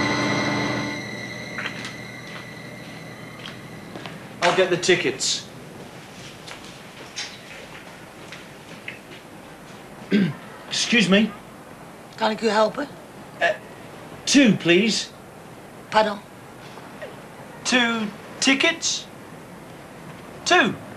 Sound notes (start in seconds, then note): 10.1 clears throat; 12.1 speaks Dutch